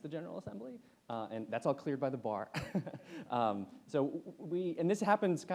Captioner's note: laughs